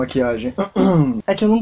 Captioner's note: caugh